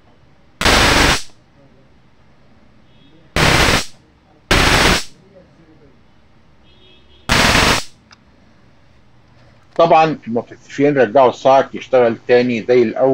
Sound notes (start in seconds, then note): 0.6 sound of a stun gun; 7.3 sound of a stun gun